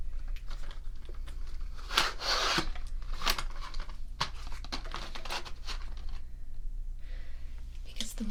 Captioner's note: markers shuffling